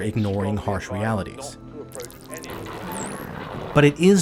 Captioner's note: tuning static